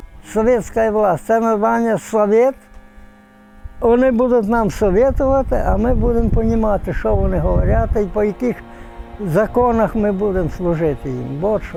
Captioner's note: give advice in russian